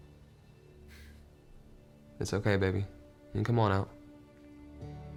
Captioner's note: sighs